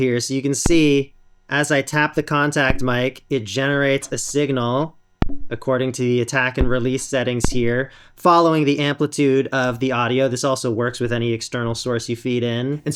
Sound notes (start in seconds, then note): 5.1 knock